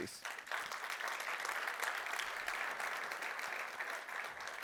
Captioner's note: applause